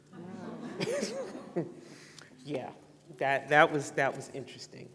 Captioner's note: laughter